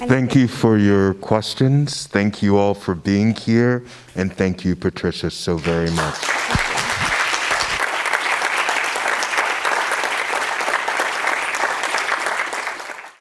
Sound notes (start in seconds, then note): 5.6 audience clapping